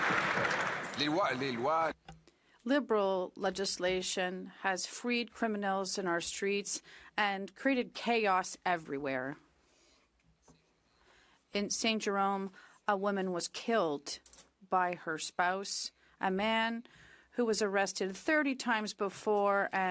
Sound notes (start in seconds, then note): 3.5 some Applause; 5.6 speaking French